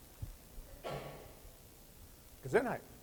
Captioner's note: sneeze